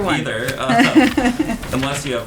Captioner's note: laughter